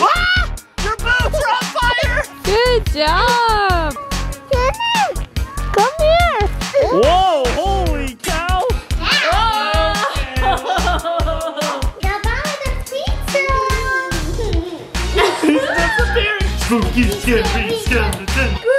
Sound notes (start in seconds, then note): 8.9 adults exclaiming; 14.2 giggling